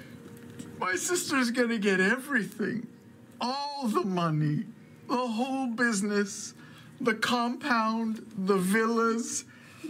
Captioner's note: tearfully